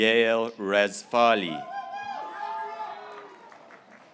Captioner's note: graduates cheering